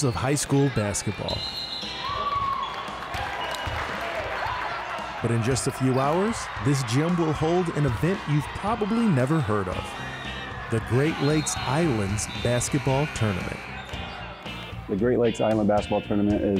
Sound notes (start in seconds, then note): 2.0 audience cheering